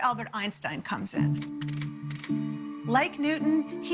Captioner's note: camera clicking